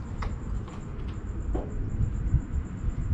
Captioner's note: knocking sound